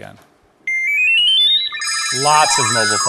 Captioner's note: phone rings